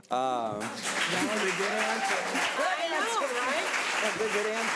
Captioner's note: audience applause